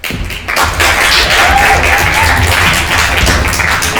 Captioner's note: crowd applauding